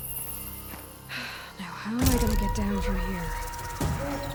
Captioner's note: sigh